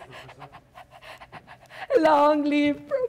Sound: Sharik softly panting

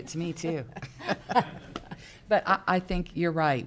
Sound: laughing

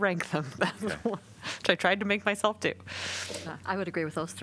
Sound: laughter

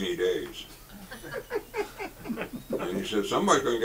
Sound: audience chuckles

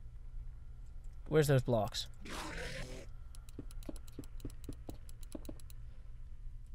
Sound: click click click

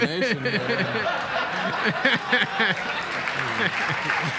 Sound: audience laughter

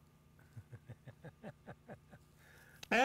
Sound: laughing

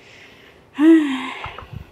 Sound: sigh

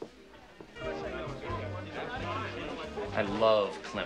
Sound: people chattering

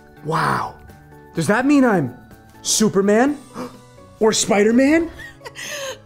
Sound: gasps; chuckles

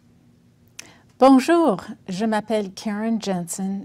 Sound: speaking French

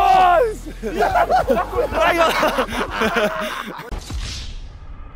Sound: contestants cheering and laughing

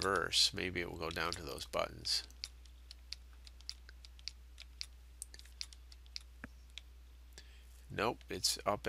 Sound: sound of typing

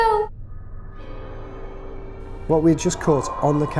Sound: faint shrieking

